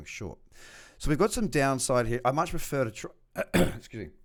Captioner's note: clears throat